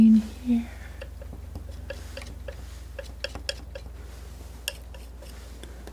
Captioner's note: tapping